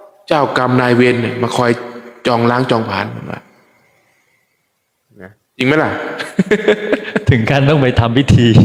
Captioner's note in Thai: เสียงหัวเราะ